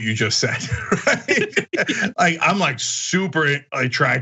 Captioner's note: laugh